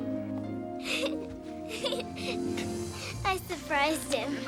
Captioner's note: Erica laughing